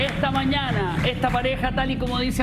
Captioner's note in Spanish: aplausos